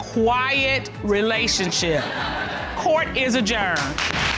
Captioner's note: audience laughing